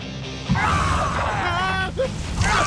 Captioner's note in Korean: 놀라는 소리